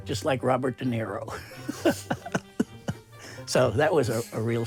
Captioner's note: laughing